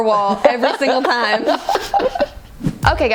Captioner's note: laughing